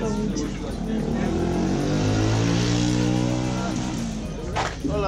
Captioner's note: motorcycle